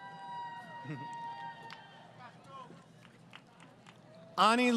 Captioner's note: crowd Cheering